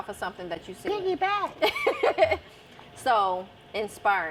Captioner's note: laughs